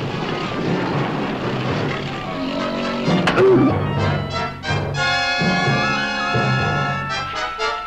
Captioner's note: Pete roaring; man grunting